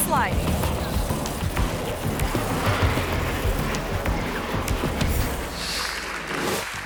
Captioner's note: tense dramatic music; car scratching; audience clapping